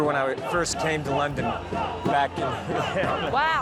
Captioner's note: crowd